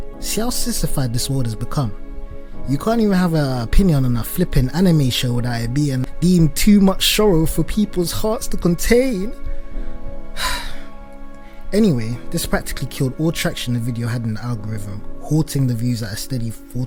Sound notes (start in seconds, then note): 10.4 sigh